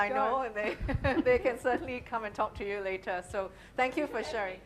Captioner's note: laughing